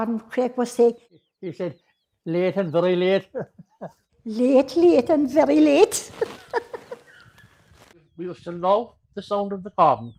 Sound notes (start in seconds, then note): 6.1 laughter